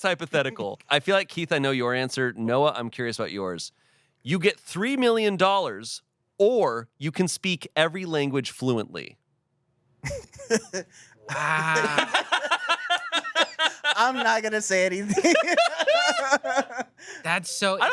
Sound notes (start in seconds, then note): 11.2 laughs; 11.3 everyone laughs